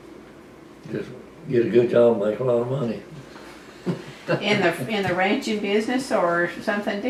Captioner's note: laughter